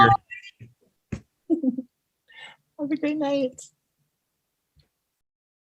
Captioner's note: laughing